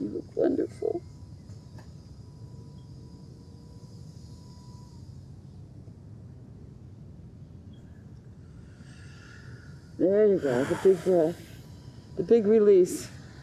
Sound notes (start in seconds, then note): 10.3 sighing